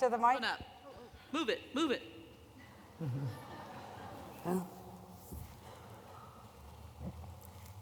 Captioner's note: laughter